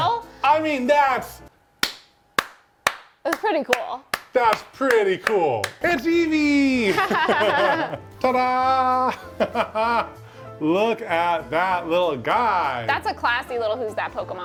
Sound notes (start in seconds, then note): 4.1 palms smacking; 6.8 both laughing; 6.9 laughs